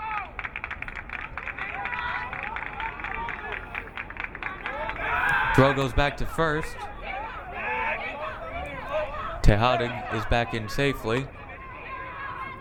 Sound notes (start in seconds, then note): 0.8 crowd clapping